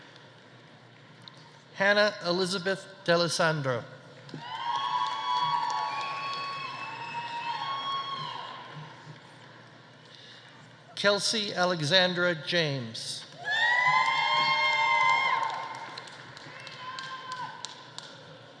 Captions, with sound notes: Hannah Elizabeth Dalessandro. (audience applauding) (audience cheering) Kelsey Alexandra James. (audience applauding) (audience cheering)